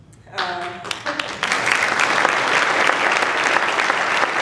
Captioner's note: applause